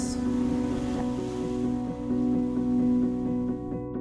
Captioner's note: waves crashing